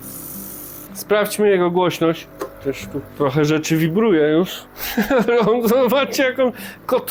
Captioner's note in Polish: śmiech